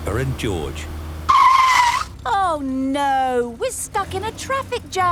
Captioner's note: tires screeching